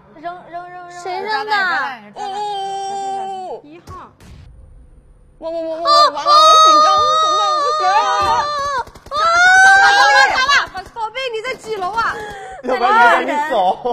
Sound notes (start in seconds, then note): 9.1 screaming!